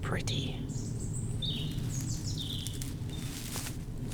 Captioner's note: evening bird tweeting